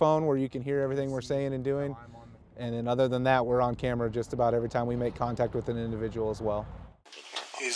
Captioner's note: none